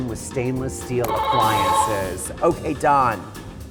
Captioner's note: buzzer beeping